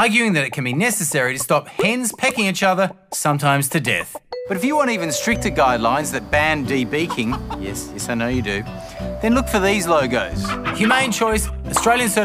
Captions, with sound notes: arguing that it can be necessary to stop hens pecking each other sometimes to death. But if you want even stricter guidelines that ban de-beaking... (Clucking) Yes, I know you do. ..then look for these logos.